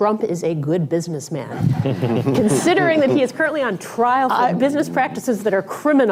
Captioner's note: laughter